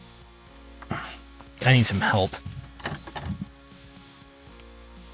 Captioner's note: exasperated sigh